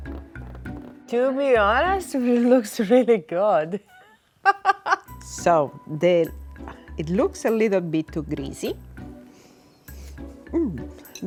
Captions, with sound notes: - To be honest, it looks really good (laughing). - So then, it looks a little bit too greasy. (sniffing)